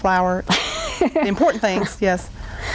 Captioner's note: laughing